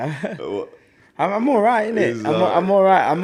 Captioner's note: laughs